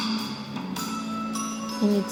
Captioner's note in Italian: campana